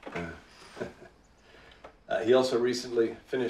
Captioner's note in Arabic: يضحك